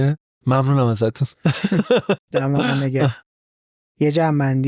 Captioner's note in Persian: خنده